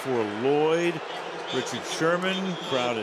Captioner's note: booing